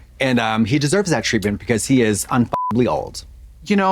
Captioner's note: beep